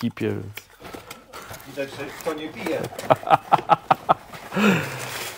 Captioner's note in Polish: śmiech